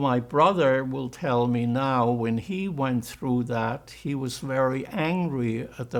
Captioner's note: german